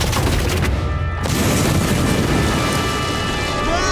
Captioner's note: rocks smashing; explosion; rocks crumbling; Iroh screams